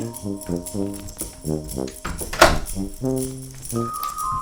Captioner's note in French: porte qui se ferme